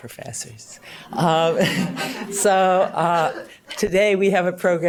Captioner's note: audience laughs